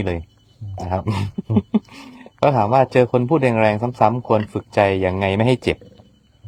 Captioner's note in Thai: เสียงหัวเราะ